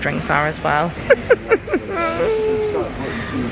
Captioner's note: giggles